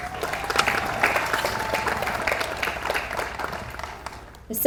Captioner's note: audience applauds